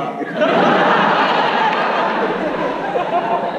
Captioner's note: audience laughs